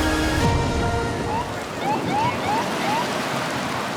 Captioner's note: siren chirping